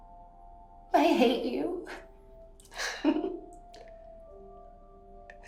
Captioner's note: chuckles